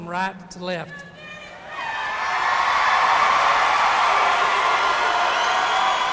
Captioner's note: audience cheering and applauding